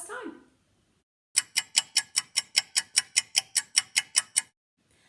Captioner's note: clock ticking